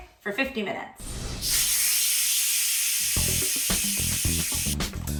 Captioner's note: pressure cooker hissing